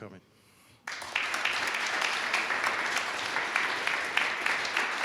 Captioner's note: all applauding